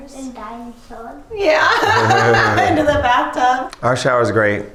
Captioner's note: laughs